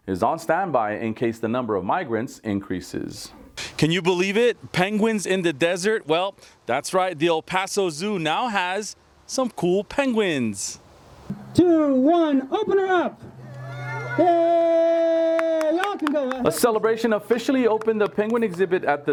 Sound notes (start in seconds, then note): 13.3 crowd cheering